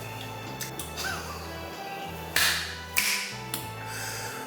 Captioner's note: laughing